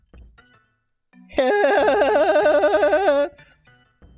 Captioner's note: laugh